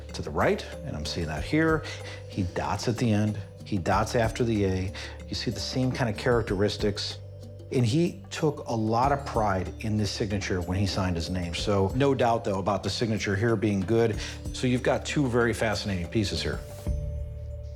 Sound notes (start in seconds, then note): none